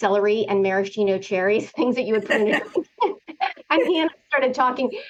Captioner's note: laughter